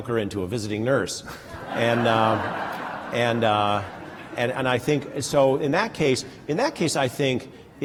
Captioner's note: laughter